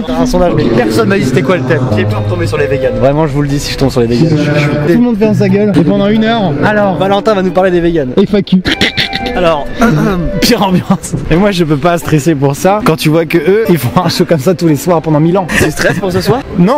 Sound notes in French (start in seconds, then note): 0.0 rire; 11.1 rire